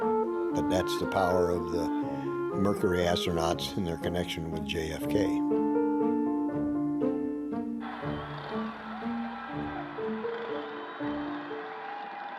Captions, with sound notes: But that's the power of the Mercury astronauts and their connection with JFK. (crowd cheering)